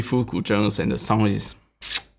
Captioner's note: smacks